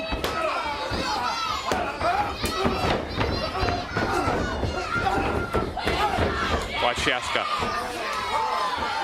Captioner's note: crowd chatter